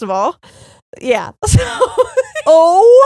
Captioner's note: laughing